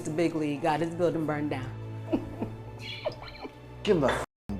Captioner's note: chuckles